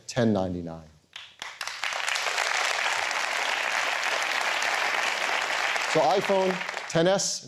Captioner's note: applause